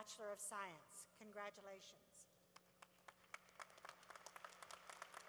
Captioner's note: applause